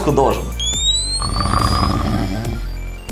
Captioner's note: snore sound